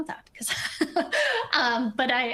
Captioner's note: laughs